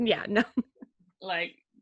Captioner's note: laughing